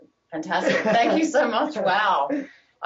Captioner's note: laughing